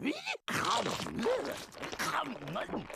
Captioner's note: chomping